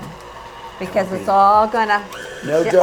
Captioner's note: machine whirs